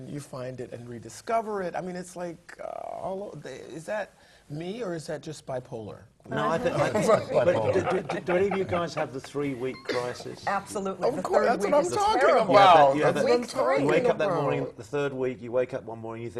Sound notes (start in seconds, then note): 6.9 laugh